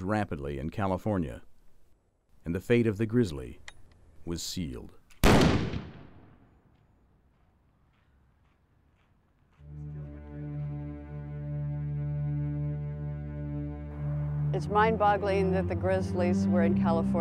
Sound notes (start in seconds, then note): 5.2 rifle shot